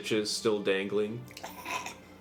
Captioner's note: Zyzzix gags